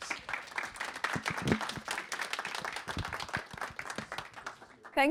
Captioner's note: audience clapping